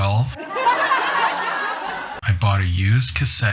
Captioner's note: laughing